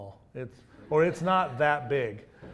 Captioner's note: audience laughs